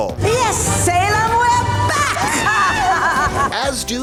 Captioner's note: cackling